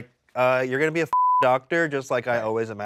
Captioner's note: beep